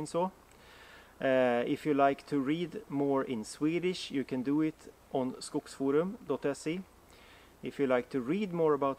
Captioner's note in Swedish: på Svenska